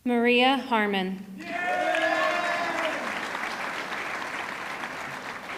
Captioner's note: audience cheering